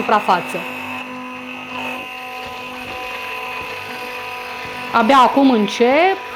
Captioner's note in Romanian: sunetul blenderului